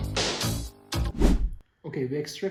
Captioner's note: woosh